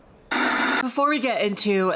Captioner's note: static crackling